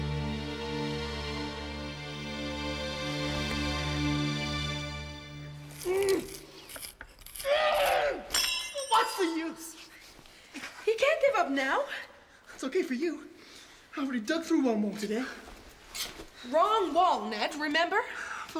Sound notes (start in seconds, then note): 0.0 dramatic music; 5.7 groaning